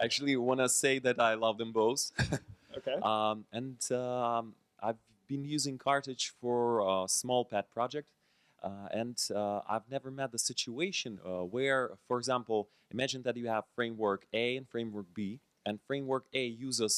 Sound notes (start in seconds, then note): 0.0 laughs; 3.7 voiceover